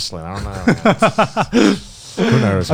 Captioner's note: laughs